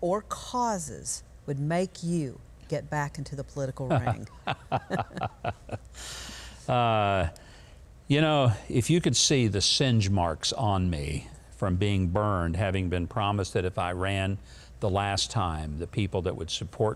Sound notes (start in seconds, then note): 3.9 governor laughs; 3.9 chuckles